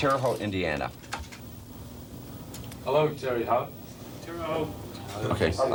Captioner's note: mispronounces